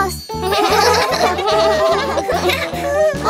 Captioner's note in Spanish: Risas